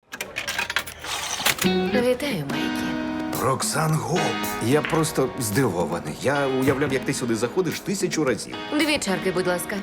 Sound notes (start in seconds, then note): 0.1 coin clatters